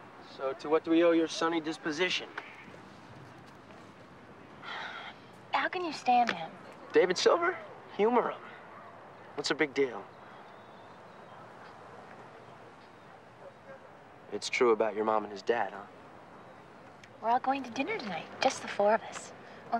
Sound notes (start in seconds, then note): 4.6 sighs